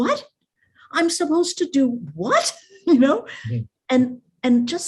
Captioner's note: chuckles